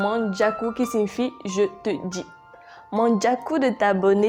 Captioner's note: in french